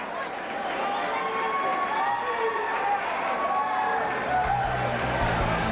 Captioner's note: crowd chatter